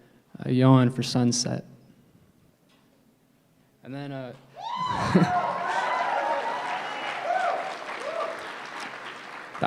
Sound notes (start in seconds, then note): 5.0 applause